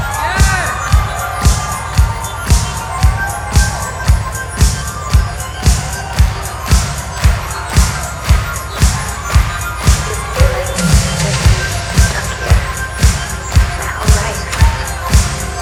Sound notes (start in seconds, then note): 6.3 audience clapping along; 11.1 synth music continues